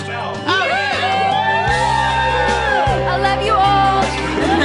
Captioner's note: everyone cheering